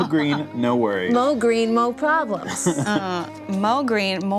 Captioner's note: chuckles